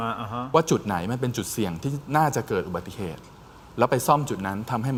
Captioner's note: sound of breathing